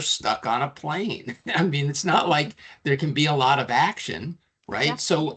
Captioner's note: chuckling